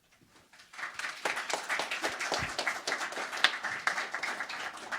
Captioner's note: crowd applauding